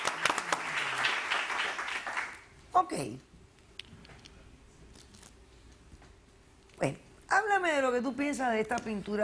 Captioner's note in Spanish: Aplausos